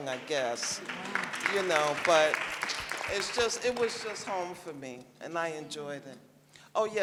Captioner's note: applause